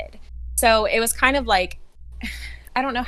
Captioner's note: sighs